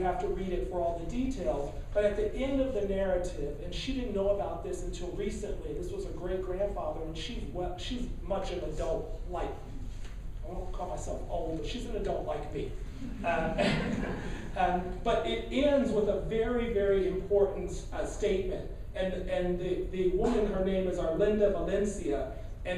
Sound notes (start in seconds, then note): 13.2 laughing